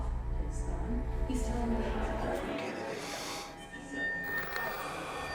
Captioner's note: actors run lines